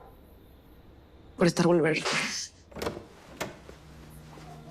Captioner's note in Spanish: Sonido al abrir la puerta